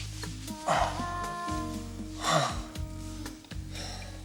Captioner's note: groaning